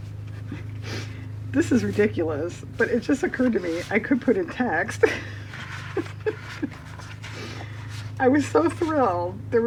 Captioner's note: laughs